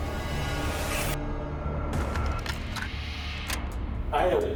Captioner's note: eerie music; tape recorder clicking